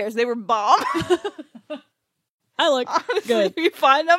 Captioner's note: laughs